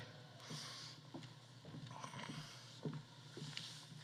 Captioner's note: footsteps echoing